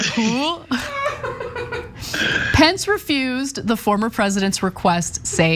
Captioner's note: laugh